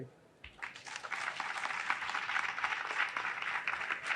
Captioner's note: audience applauding